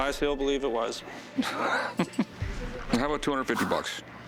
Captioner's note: laughs